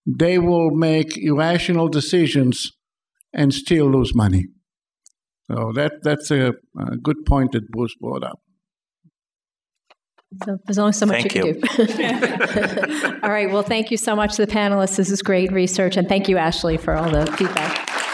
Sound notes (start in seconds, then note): 11.1 chuckles; 16.6 applause